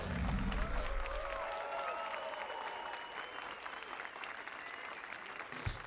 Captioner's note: applause and cheers